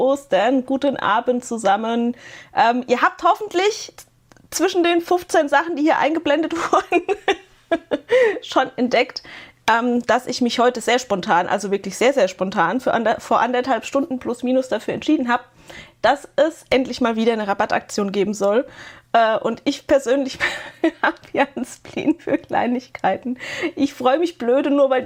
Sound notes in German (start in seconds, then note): 6.5 gelächter; 20.4 gelächter